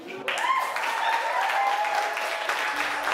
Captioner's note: cheering